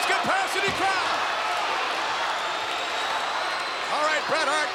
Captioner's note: crowd cheering